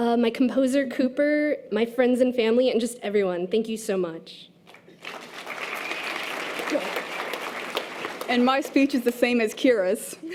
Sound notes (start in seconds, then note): 4.9 audience applause